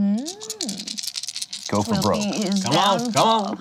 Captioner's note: dice rattling